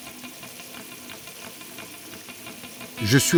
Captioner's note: water flowing